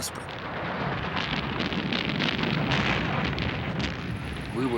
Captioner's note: cannons firing